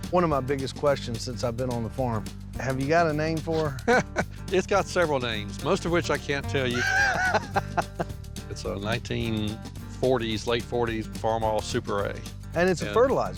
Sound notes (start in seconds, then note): 4.0 chuckles; 6.7 laughs